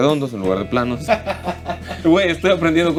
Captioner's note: laughter